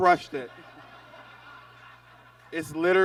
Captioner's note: audience laughs